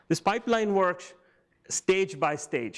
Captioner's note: none